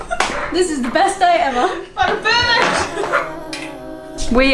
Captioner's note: laughs